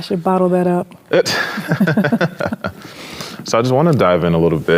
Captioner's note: laugh